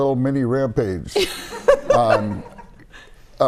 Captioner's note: laughter